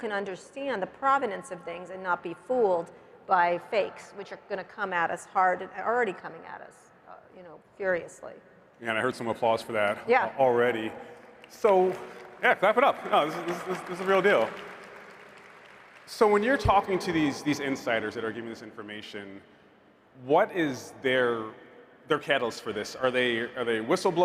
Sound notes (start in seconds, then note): 14.2 applause